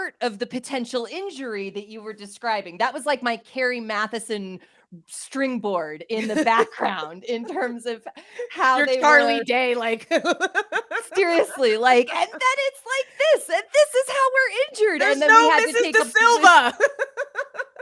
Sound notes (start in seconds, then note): 10.0 laughs; 17.6 both laugh